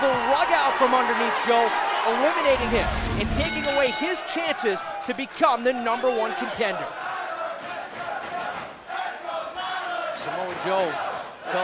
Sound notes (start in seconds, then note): 4.8 crowd chatter